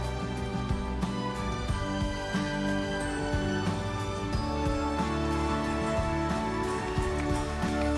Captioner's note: applause